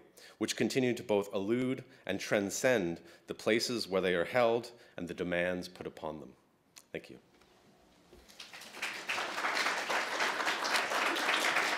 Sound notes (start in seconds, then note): 8.2 audience applauds